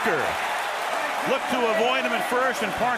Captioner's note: cheering